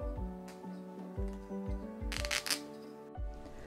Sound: sound of seam ripper

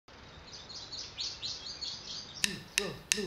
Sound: birds chirping; drum stick count

